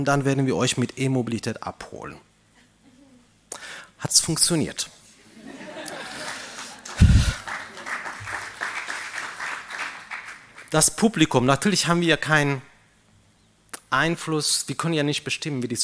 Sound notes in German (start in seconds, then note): 5.8 applaus